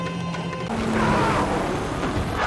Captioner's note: helicopter noise; crowd screaming, helicopter noise